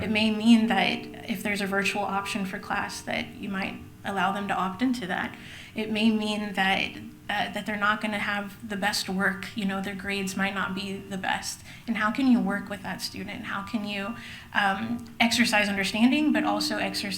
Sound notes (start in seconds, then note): none